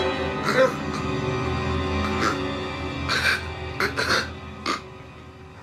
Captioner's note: Mr. Wolfson gasping